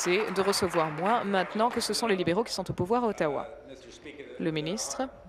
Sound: applause

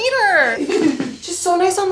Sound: laughing

